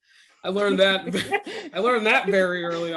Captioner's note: laughing